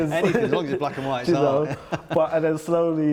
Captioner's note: laughing